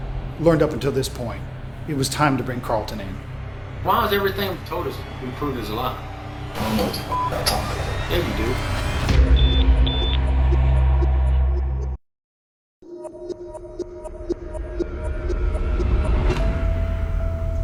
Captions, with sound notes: LEARNED UP UNTIL THIS POINT, IT WAS TIME TO BRING CARLTON IN. [ TWO HIGH-PITCHED BEEPS ]